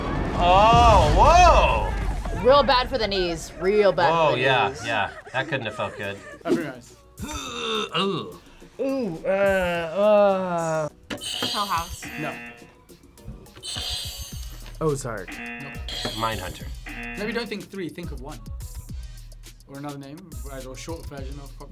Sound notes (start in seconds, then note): 11.2 buzzer; 11.3 buzzer rings; 15.2 buzzer; 15.2 buzzer rings